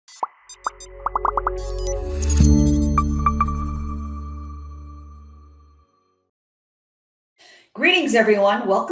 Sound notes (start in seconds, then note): 0.4 techno music; 1.0 bubbles popping